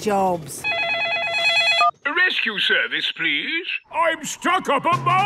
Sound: phone ringing

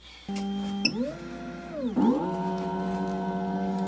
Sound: machine whizzing and beeping; machine revving

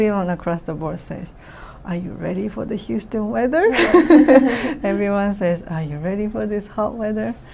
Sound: all: laugh

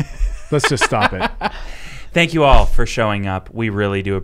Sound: laughing

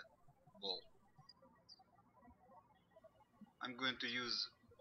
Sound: birds chirping

